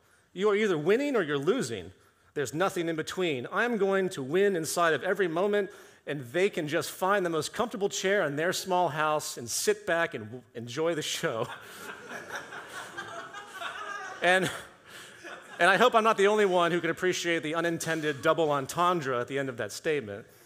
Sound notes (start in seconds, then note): 11.4 audience laughter